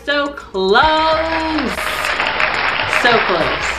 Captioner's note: audience applause